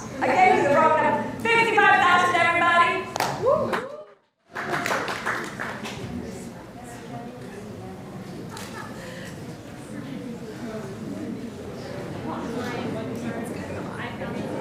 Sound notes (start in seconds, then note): 4.4 applause